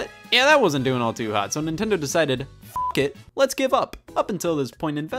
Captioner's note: beeps